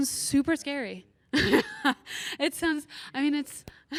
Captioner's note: laughs